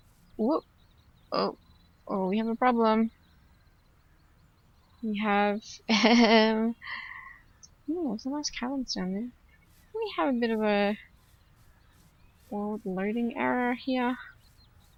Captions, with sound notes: Whoop! Oh. We have a problem. We have... [laughs] Ooo there's some nice caverns down there. We have a bit of a... world loading error here.